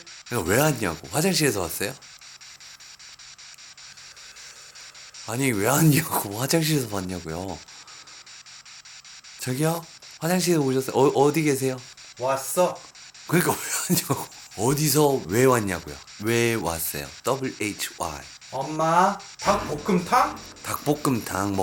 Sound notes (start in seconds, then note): 2.2 inhale; 3.9 exhale